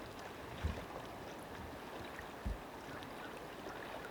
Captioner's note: water trickles